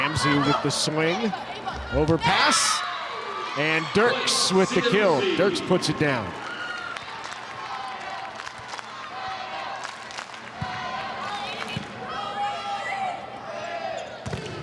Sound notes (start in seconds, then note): 3.0 audience cheering; 6.7 audience cheering; 10.8 ball thumping; 12.1 players shouting indistinctly; 14.3 ball thumping